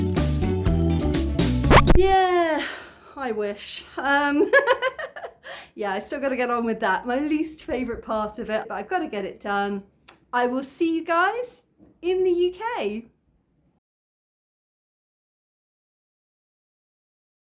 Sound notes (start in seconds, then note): 1.6 record scratch; 2.6 deep sigh; 4.4 laughing